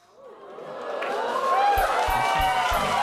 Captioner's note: cheers and applause